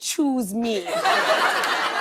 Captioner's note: laughter